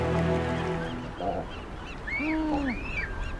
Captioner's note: birds calling, grunting